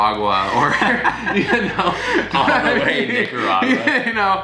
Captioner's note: both laughing